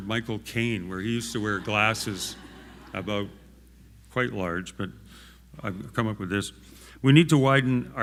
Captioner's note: laughter